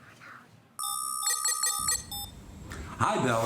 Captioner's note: beeping